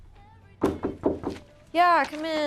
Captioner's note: KNOCKlNG AT DOOR